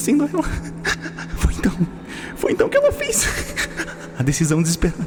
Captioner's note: giggle